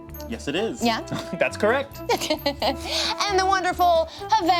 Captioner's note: chuckles